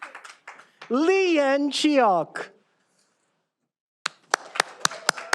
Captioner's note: all applauding